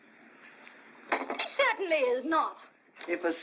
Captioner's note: cup sets down